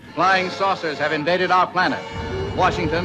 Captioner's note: voiceover